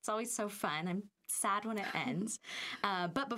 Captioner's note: laughing